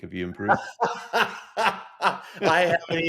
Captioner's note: laughs